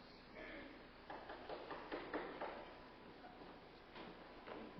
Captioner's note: insistent pounding at the door